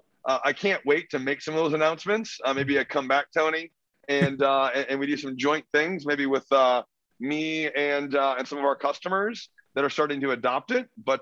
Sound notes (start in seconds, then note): 4.2 laughs